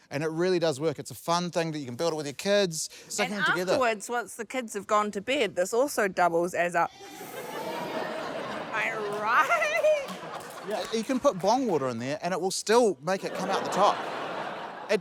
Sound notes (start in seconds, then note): 6.9 inhales